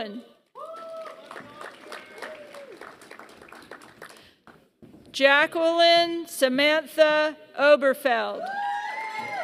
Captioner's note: applause; applause